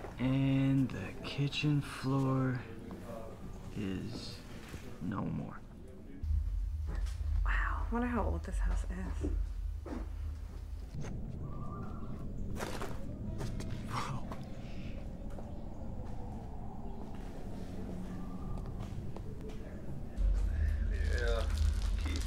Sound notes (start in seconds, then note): 12.5 footsteps through debris; 20.2 more chatter